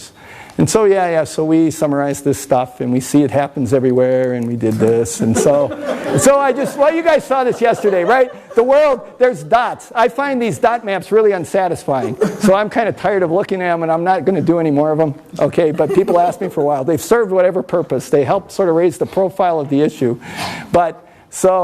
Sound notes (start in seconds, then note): 5.2 everyone laughs